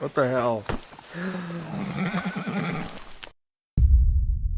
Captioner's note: in horse talk